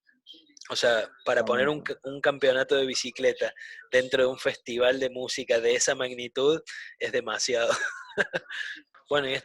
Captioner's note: laughs